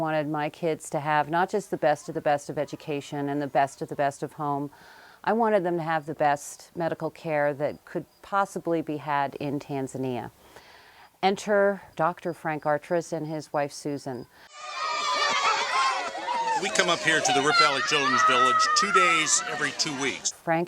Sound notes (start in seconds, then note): 14.4 children Cheering